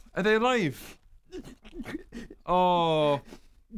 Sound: sobs

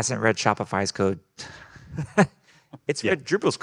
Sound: group laughing

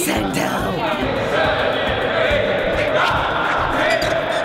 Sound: crowd counting

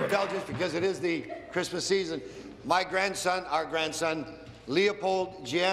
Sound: applause

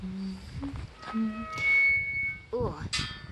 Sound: gate squeaks loudly

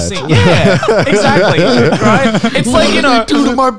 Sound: laughing softly

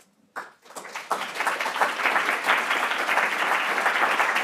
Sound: audience applauds

